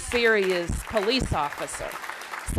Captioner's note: applause